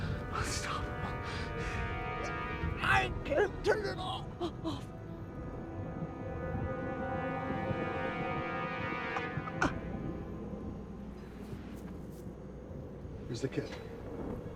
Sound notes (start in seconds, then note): 5.7 civil defense siren